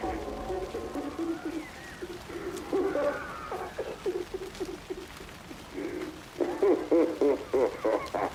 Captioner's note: crying